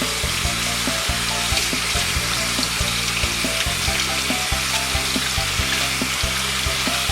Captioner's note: running Water